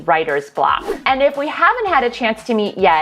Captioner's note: whoosh